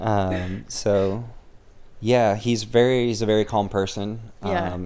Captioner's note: laughing